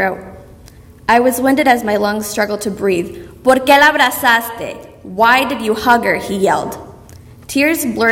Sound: speaking Spanish

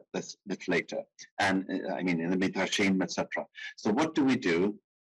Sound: speaking in foreign language

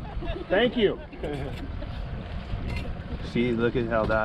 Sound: laughing

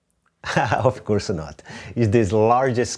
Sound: laughs

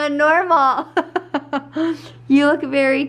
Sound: laughing

